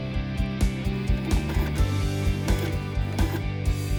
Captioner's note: printer sounds